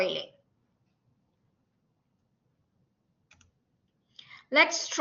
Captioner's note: silence